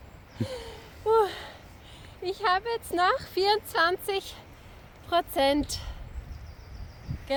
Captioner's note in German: japst